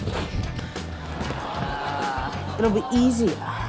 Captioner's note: laughter